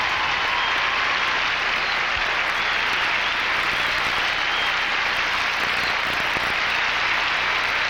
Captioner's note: applause